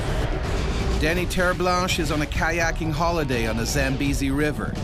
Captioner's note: voiceover